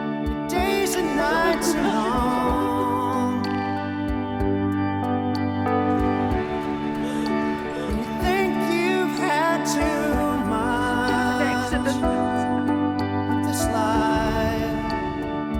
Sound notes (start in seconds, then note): 0.6 sobs; 6.4 sobs